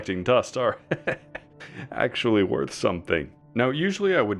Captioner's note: desperate chuckles